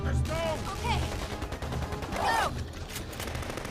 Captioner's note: gunshots popping